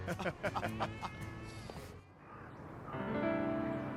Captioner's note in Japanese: 笑い